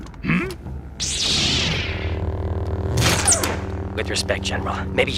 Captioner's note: laser whirs